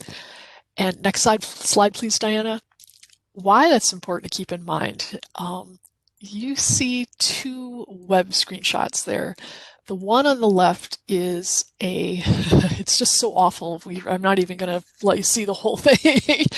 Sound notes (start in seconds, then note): 11.8 chuckles; 15.9 laughs